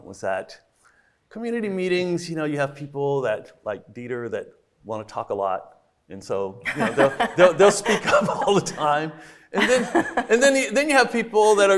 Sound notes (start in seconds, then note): 6.7 everybody laughing